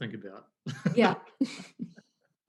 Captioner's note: laughs